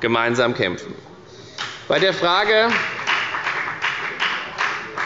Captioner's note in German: Beifall bei der FDP